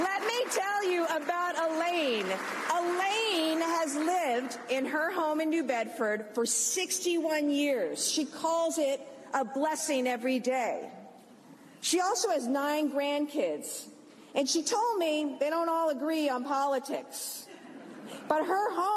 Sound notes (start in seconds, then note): 4.5 applause